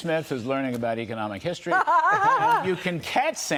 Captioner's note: laughter